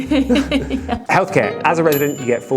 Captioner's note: laughing